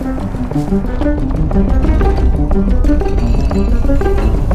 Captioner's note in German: Donnern